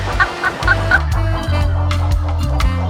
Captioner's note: laughing; heavy reggae music